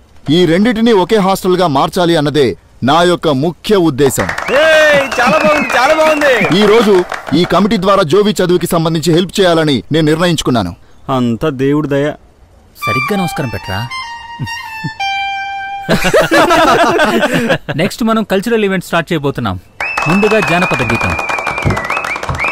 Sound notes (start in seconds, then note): 4.1 applause; 15.8 laughs; 19.8 applause